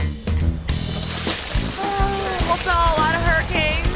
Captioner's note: bucket sloshing